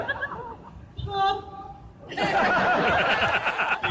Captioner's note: audience laughs